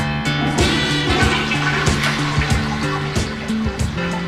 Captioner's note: toilet flushes